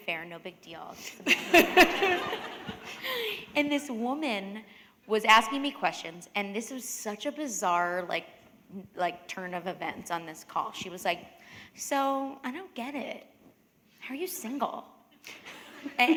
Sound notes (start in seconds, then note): 1.2 laughter